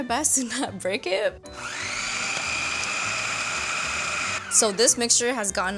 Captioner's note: processor whirs